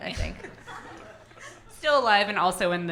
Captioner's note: audience laughing